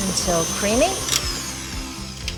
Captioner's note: mixers roars; light acoustic music